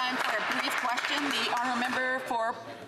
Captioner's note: some Applause